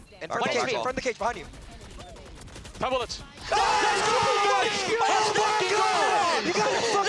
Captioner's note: cheering